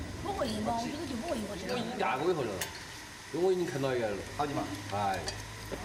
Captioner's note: speaking in foreign language